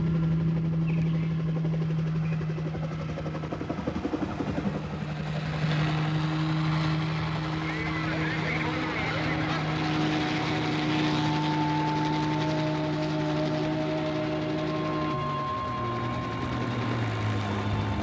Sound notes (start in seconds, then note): 7.5 murmuring; 11.6 foreboding instrumental music